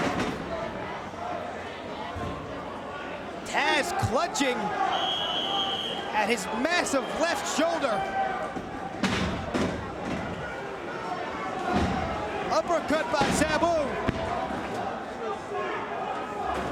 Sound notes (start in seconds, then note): 4.9 whistling